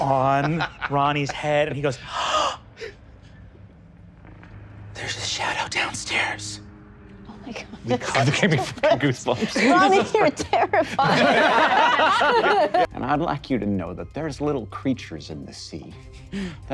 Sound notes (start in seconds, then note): 2.0 gasps; 11.4 players laughing